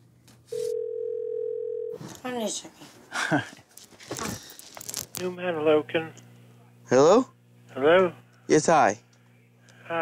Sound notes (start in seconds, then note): 0.5 phone rings